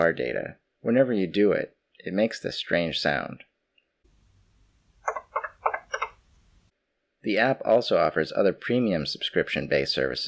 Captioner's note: relays clicking